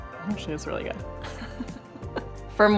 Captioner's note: laughing